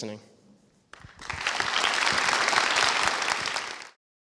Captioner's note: applause